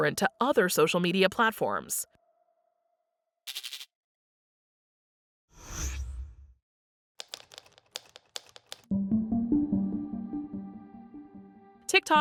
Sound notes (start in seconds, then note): 5.9 whooshing; 7.2 keyboard clicking; 8.9 ominous electronic music